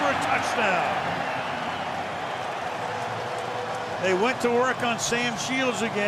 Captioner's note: cheering